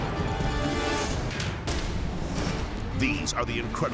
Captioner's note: dramatic music; metal clattering